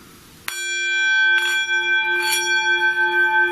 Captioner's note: bowl dings